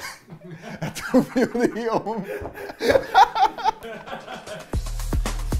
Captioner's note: laughing